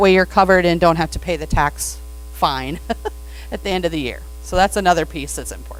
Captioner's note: laughs